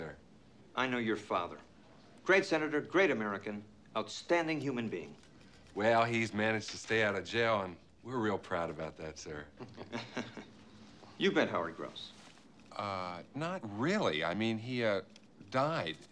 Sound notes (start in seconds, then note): 9.5 both chuckle